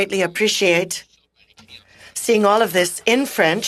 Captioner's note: speaking French